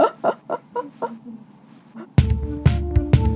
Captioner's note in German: lacht